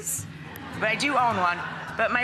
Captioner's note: crowd laughs